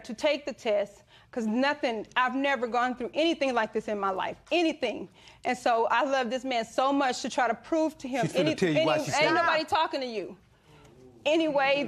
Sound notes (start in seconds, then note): none